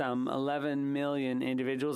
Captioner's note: speaking French